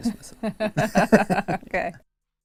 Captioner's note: laughing